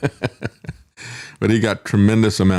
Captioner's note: laughs